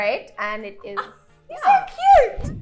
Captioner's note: gasps